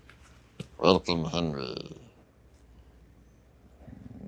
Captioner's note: purring